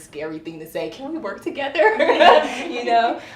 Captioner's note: laughs